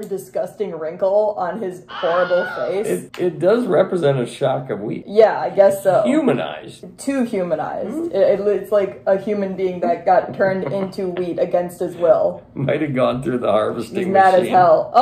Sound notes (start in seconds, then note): 1.9 scream